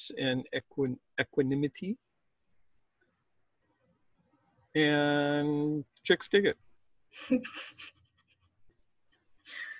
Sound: laughs

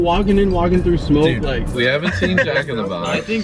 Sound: laughs

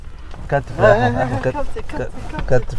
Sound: Arabic

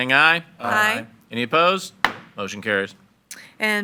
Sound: gavel bangs

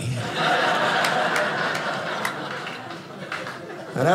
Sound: audience laughing

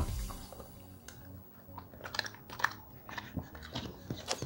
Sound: dog chewing

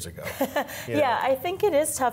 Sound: laughs

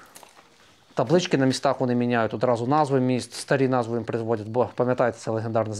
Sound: in russian

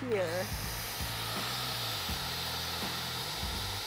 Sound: saw buzzing

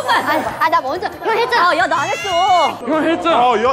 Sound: crying

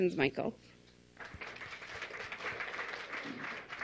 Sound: clapping

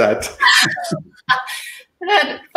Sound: laughter

